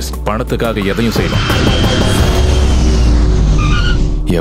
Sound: engine whirring

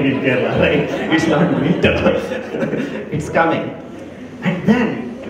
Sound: laugher

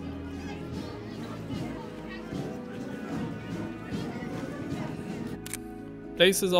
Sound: crowd chattering

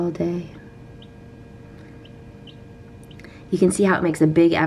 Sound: chirps

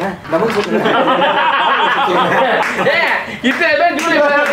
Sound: laughs

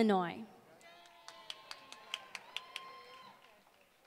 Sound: applause

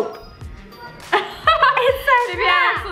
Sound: laughs

